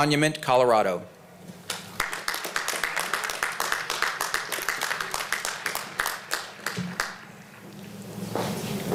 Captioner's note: applause